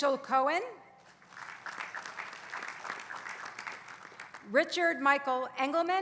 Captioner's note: applause